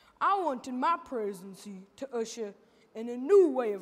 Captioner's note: none